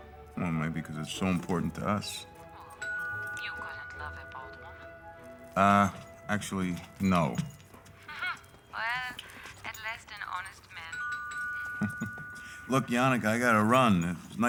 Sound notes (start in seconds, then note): 2.6 doorbell rings; 8.0 Janneke laughs; 11.0 doorbell ringing; 11.6 chuckles